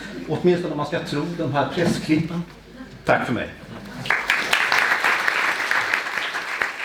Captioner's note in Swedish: Applåder